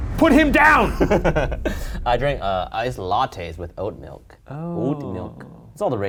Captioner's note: laughs